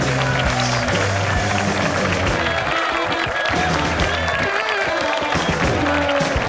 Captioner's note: audience applauding; upbeat rock music